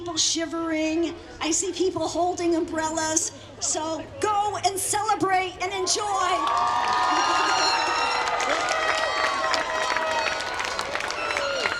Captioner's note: applause